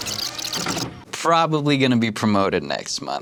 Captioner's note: videotape plays